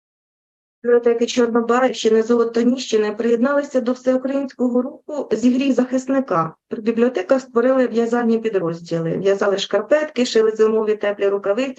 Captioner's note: foreign Language Spoken